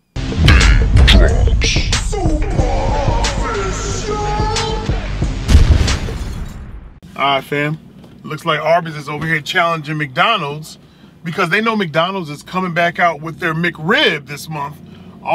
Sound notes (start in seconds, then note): 0.1 theme music; 5.4 explosion and glass breaking